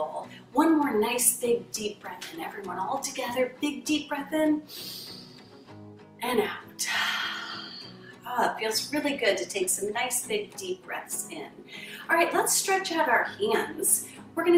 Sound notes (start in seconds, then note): 4.6 inhales; 6.8 exhales